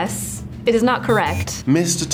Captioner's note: buzzer blares